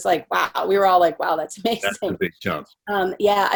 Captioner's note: chuckling